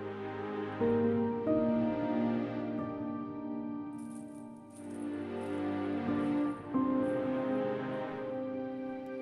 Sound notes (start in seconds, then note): 4.7 footsteps